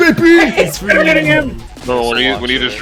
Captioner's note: incoherent excitement